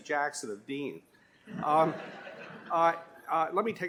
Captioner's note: laughter